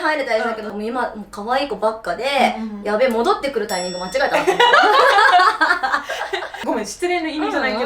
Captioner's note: laughs